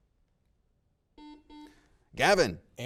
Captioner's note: buzzer rings